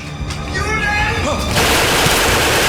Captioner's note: ominous music; officer yelling in German; rapid gunfire booming